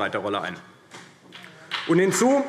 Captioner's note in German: Beifall CDU und BÜNDNIS 90/DIE GRÜNEN